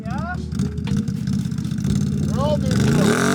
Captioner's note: engine revving